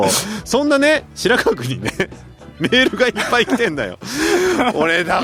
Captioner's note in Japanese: 笑い